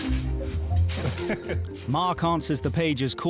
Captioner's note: playful music; kids playing; chuckling